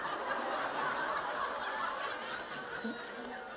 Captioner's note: laughter